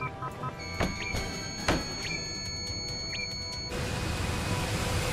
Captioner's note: solid tone sounding